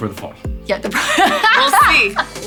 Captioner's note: laughs